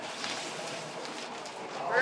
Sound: cutting plastic

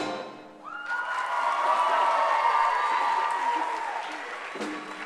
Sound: applause

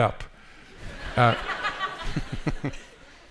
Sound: laughter

